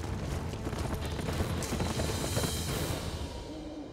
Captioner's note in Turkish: At nalı sesleri